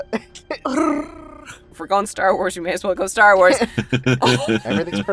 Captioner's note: trills; chuckles